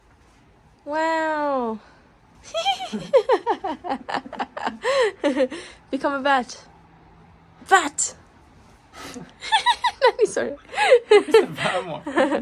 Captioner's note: laughs